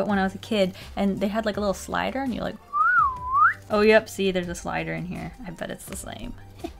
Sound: whistle sounds

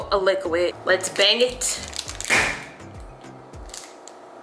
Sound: bangs

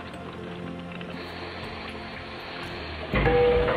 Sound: sizzling; chiming

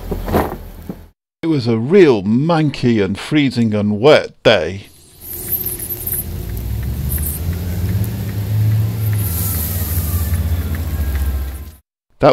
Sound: train departure engine noises

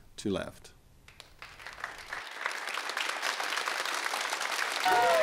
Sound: crowd applauding

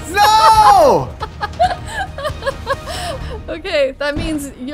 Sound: laughing

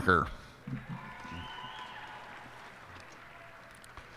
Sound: cheers and applause

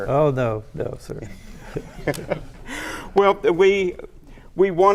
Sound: laughter

